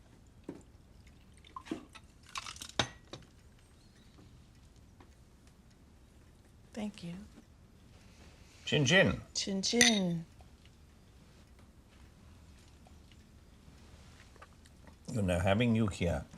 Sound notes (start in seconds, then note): 0.1 liquid pours